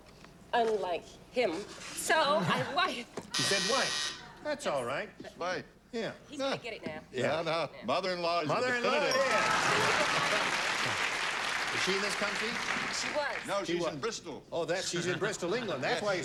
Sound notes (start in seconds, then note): 3.3 buzzer; 9.1 cheers and applause